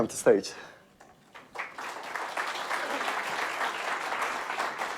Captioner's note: audience clapping